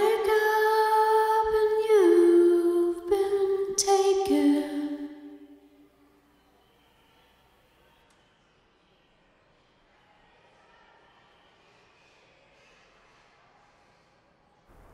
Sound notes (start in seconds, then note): 11.1 low hum of chatter